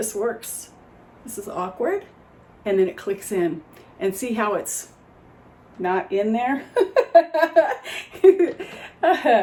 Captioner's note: laughs